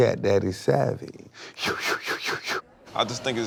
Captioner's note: whooshes